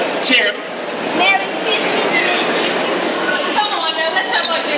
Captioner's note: sullen